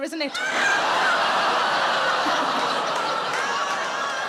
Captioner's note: audience laughing